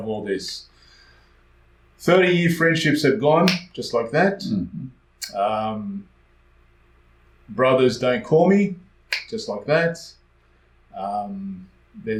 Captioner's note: snap